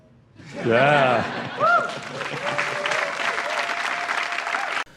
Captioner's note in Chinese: 掌聲